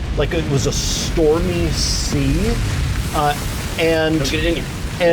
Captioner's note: waves crashing